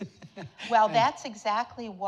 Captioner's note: audience laughing